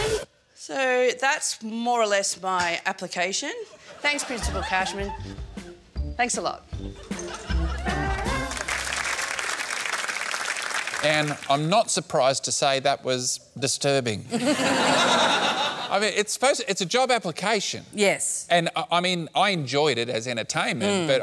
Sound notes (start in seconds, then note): 7.8 applause; 14.3 laughter